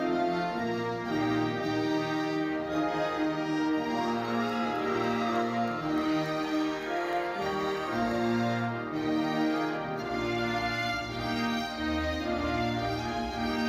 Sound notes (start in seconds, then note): 4.1 audience cheering; 4.1 ceremonious music continues